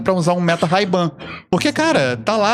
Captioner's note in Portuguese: limpando a garganta